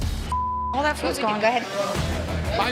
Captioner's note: dramatic music; beep; suspenseful music